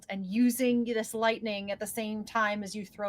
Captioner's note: none